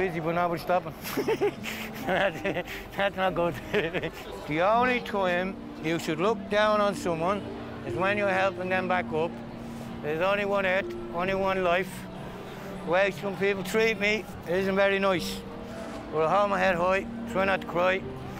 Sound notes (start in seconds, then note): 1.0 laughs